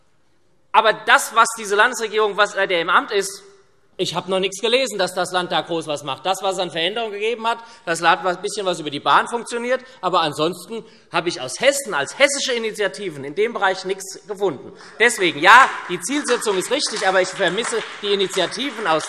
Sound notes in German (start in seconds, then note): 14.8 Beifall SPD und vereinzelt Freie Demokraten